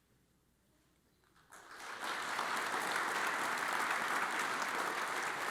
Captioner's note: audience applauds